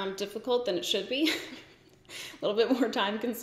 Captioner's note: giggles